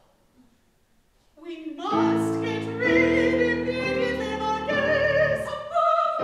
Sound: Miss Todd sighs

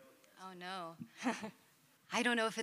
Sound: chuckles

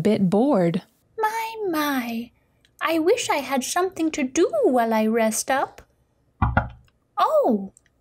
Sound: knocking sound

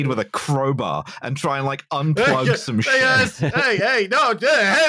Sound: laughs

